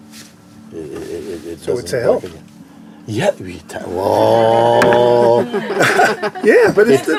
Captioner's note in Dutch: gelach